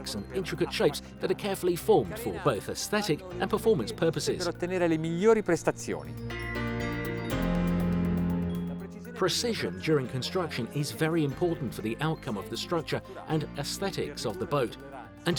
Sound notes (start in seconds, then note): 4.7 speaks Italian; 6.4 playful music